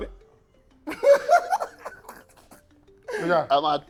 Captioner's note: laughs